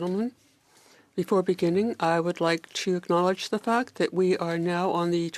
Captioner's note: speaking French